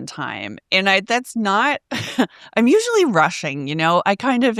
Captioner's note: chuckles